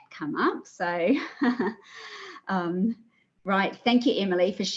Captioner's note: laughs